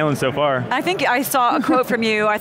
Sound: giggles

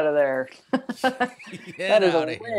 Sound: both laughing

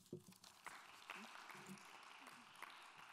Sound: applause

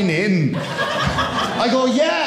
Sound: audience laughing

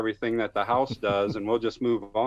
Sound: laughs

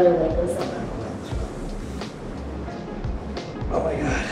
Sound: speaking faintly

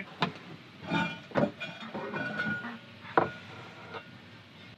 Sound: metal clanking

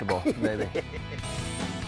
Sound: laughs

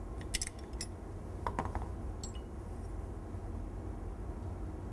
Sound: hammer hitting table

